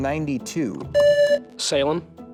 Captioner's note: buzzer